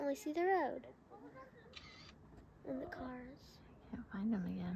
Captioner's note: camera clicking